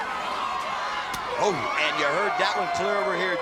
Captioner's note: hand slaps